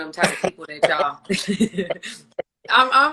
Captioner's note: laughs